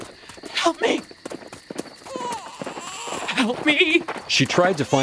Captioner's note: horse galloping through forest, getting louder